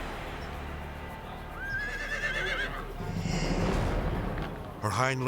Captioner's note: horse neighing